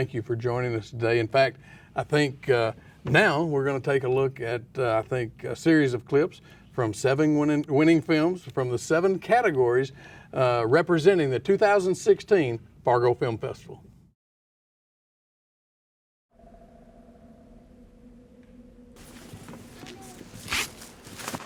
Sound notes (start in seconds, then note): 16.4 wind whistles softly; 19.0 flag rustles